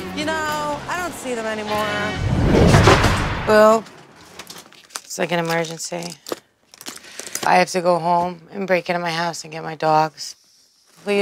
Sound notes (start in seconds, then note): none